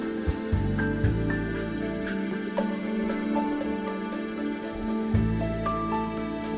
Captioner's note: none